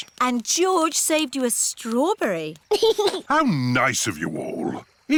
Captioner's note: giggles